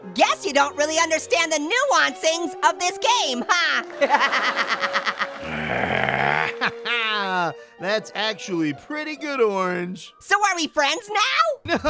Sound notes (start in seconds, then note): 3.8 audience laughs; 4.0 laughs; 5.4 grunts; 7.2 laughs